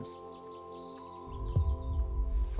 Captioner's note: birdsong